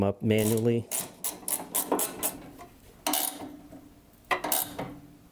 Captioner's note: wrench clicking